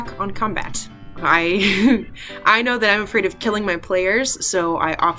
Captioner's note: laughs